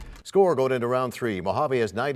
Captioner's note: crashing sound